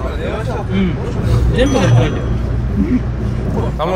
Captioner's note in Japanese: 効果音 チーン